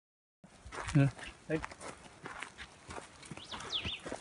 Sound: walking sounds; birds chirping

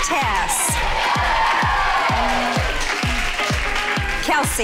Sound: girls cheering

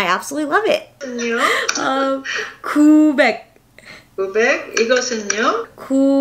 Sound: speaking in foreign language

